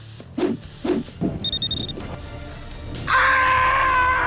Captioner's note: dramatic music; beeping; screams